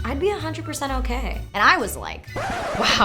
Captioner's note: record scratch